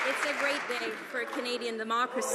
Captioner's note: some Applause